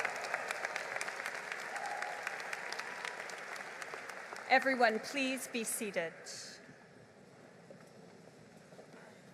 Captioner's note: applause